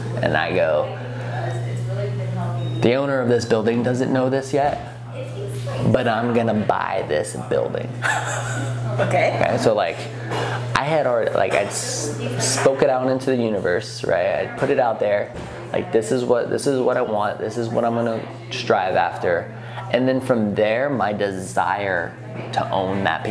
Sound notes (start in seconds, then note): 8.0 laughing